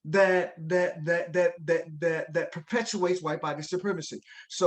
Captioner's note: none